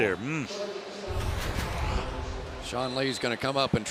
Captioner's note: pa announcement